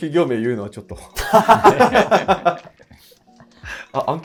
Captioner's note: laughing